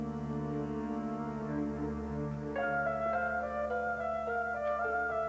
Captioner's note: elevator bell rings